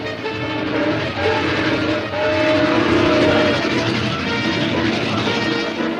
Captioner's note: dramatic orchestral music; train whistles and chugs